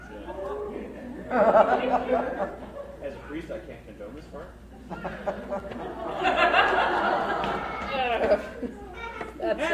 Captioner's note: crowd laughs; more laughter